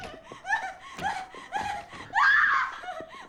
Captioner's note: crying; screaming